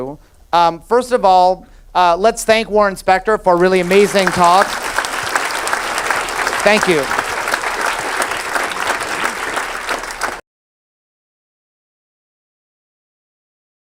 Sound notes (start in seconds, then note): 3.8 audience applauds